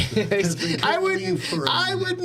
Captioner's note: laughing